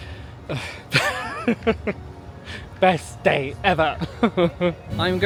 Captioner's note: laughing